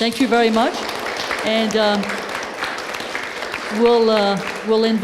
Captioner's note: applause